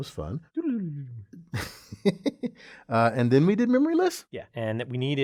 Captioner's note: laugh